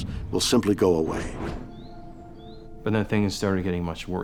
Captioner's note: birds chirp